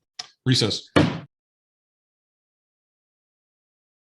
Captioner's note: gavel bangs